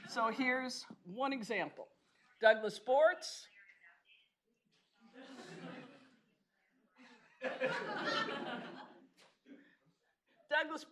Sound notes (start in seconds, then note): 7.4 laughing